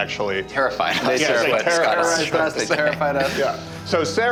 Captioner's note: laughs